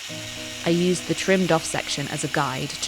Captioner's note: scissors whirring